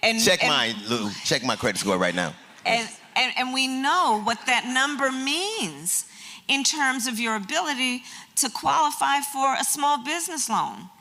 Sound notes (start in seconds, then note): 0.0 laughs; 2.2 laughter